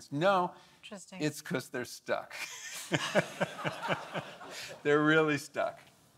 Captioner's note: laughs